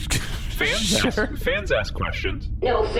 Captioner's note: laughs